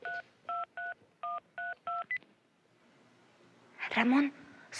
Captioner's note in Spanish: Sonido al marcar